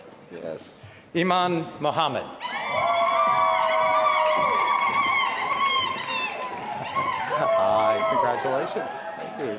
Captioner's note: applause